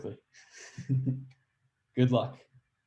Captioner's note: laughs